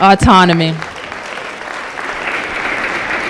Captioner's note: applause